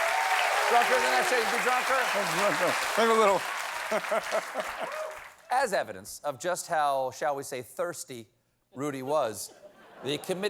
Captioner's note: applause